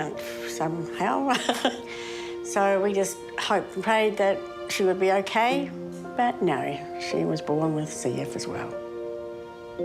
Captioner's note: laughs